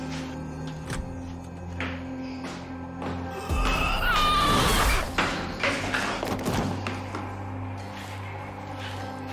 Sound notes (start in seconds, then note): 3.4 revenant shrieking; 4.9 power whooshing